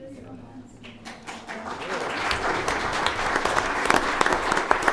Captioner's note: audience applauds